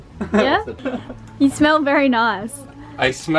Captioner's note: laughs